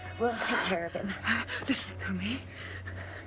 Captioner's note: gasping